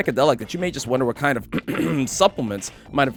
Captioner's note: ahem